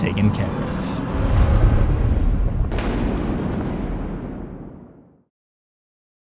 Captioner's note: cinematic impact